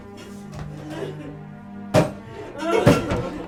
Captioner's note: crying